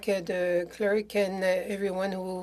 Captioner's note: speaking French